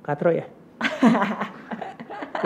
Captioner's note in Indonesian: tertawa